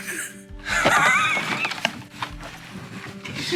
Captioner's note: giggles